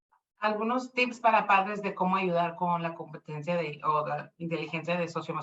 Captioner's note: speaking Spanish